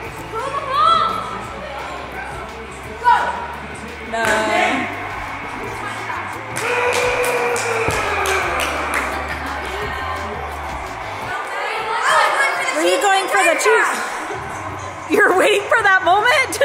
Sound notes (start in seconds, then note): 7.8 people clapping